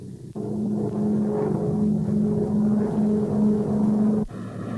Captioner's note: plane engine roaring